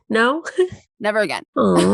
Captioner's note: laughs